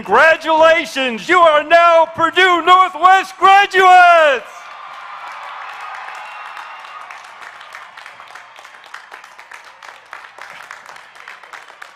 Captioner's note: applause